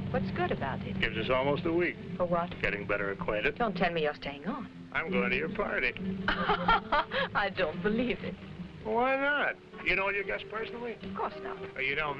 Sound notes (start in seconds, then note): 6.2 Raina laughing